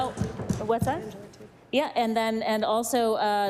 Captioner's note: applause